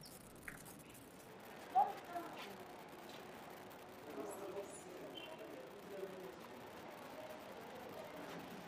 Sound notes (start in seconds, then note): 2.2 people chattering indistinctly